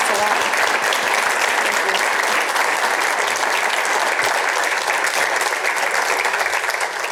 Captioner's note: applause